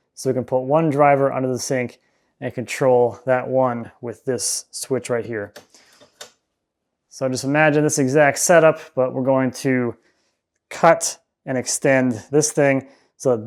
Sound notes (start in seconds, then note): 6.0 switch clicking